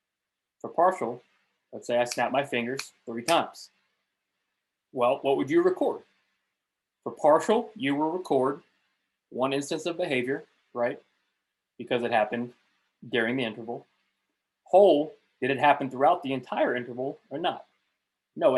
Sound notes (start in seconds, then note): 3.2 fingers snapping